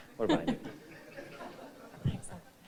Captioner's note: audience chuckling